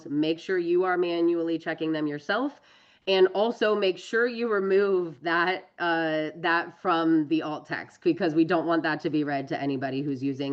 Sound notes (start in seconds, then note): none